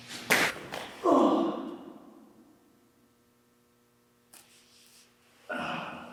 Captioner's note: body thuds; Jacob groans